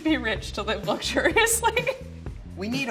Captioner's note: laughs